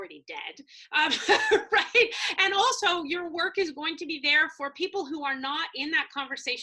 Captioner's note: laugh